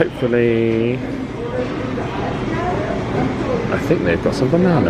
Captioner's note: indistinct chatters